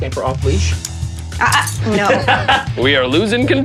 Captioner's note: laughter